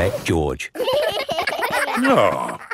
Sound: giggling

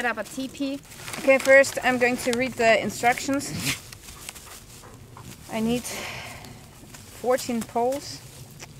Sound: sigh

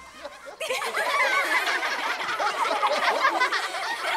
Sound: laughter

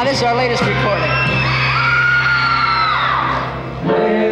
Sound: audience cheering

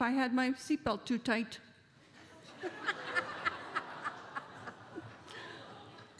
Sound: laughter

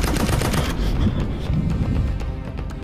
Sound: gunshots sound; dramatic music

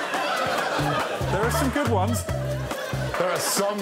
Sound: laughter

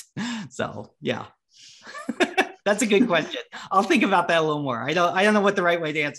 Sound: laughs

